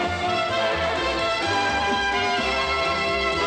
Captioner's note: none